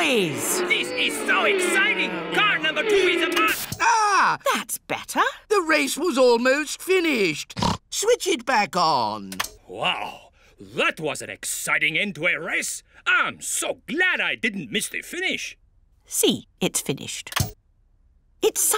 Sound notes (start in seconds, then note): 3.9 gasps; 7.6 snorts